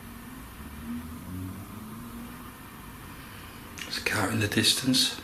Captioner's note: car engine rumbling